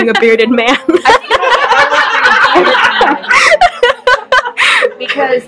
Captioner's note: hysterical laughter